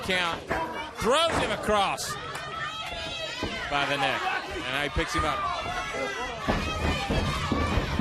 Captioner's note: crowd chatter